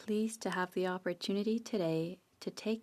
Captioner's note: speaking French